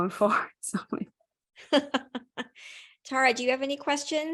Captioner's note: laughter